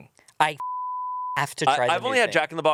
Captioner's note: beep